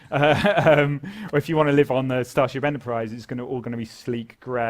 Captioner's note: laugh